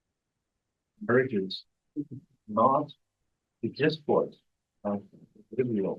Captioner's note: presenter speaking faintly off mic